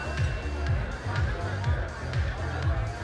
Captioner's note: drinking noises; text chimes